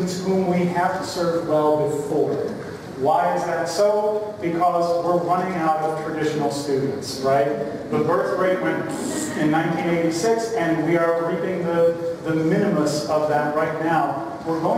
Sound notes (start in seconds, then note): 9.2 blows raspberry